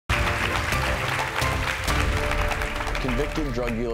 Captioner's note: audience applauding